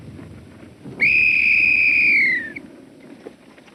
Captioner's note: blowing whistle